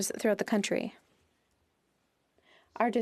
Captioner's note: speaking French